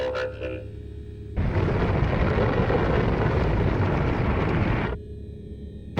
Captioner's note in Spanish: explosión